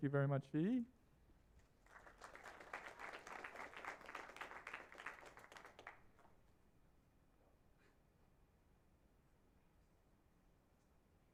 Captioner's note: applause